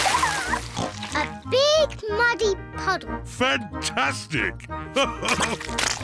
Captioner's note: oinks; laughs